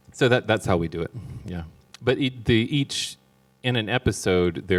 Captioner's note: none